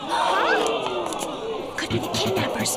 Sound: gasps

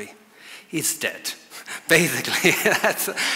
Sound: laughs

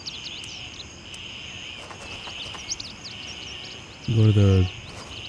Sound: birds chirping

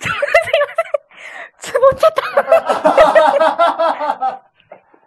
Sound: laughs

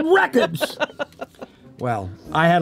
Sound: Heather laughing

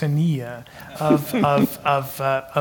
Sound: laugh

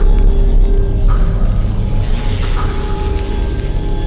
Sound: buzzing, crackling

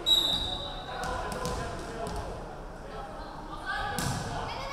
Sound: referee whistling

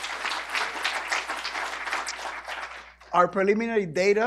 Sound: applause

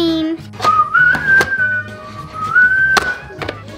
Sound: whistles

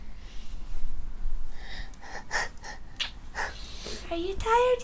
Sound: crying sounds

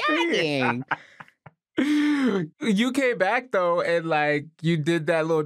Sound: laughs

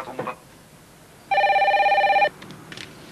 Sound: telephone rings

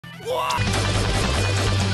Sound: screaming; gunfire

